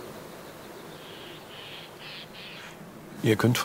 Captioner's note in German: Vogelrufe